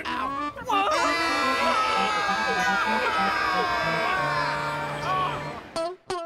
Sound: all shouting

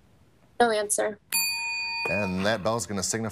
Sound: bell dings

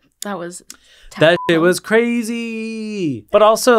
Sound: beep

